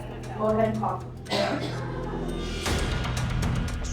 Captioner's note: coughs